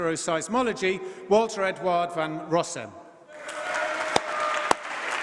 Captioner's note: applause